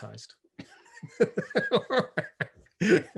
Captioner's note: laughs